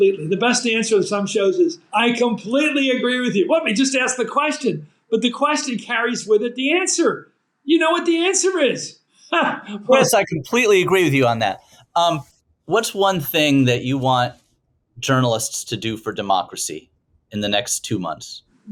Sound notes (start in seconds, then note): 9.4 laughing